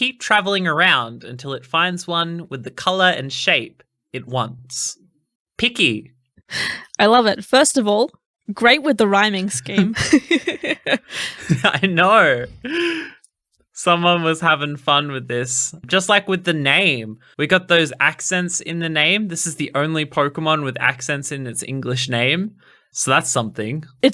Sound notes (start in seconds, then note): 9.5 laughing